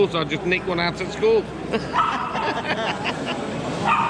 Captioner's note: laughter